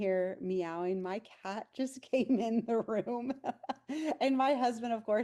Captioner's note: chuckles